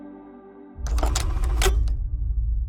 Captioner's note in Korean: 다이얼 소리